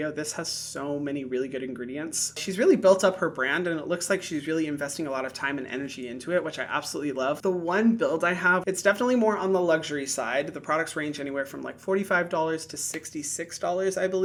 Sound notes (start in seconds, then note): none